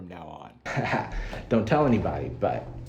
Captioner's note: chuckles